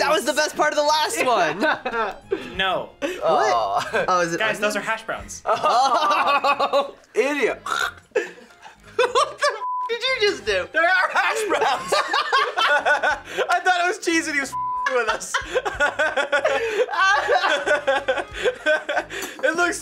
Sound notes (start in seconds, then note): 7.5 laughs; 7.6 gags; 12.3 laughs; 14.7 both laugh